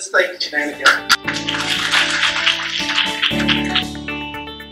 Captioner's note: applause